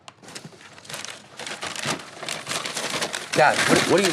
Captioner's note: papers rustling